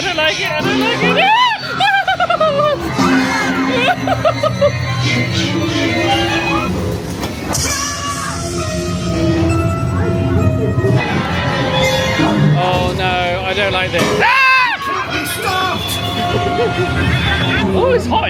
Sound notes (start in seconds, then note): 1.2 screams; 1.2 laughs nervously; 5.9 spooky music; 8.1 screaming; 8.1 spooky music; 14.2 screams; 16.1 laughing; 16.2 spooky music